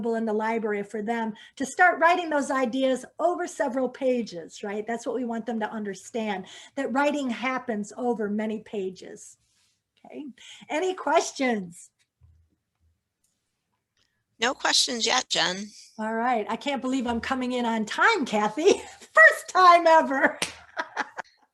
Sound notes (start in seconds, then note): 20.8 laughs